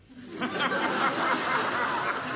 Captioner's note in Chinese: 笑聲